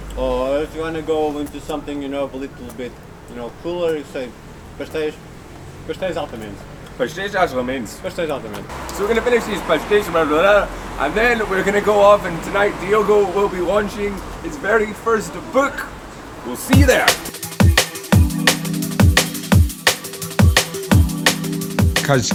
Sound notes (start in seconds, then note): 5.3 speaks Portuguese